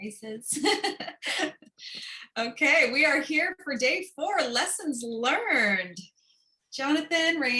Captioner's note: laughter